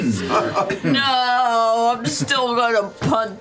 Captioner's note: laughter